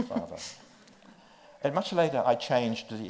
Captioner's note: chuckles